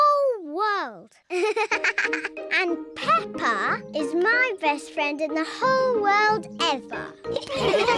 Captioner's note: giggling; all laugh